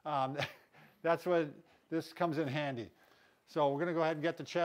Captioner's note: scoffs